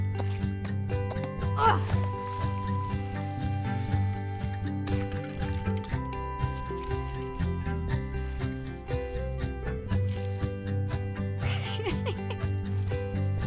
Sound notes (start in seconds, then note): 11.4 laughs